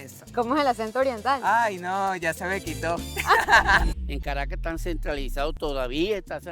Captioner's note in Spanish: risas